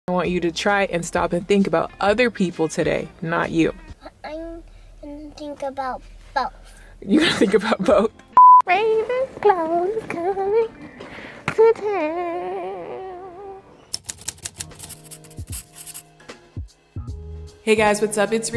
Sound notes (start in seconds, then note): 8.3 beep; 9.5 singing; 13.9 typing sound